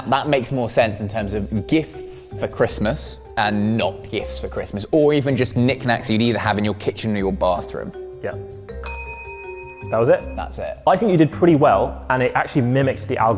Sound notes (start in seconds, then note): 8.8 bell dings